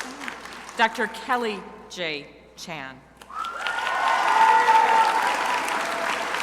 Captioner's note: crowd applauding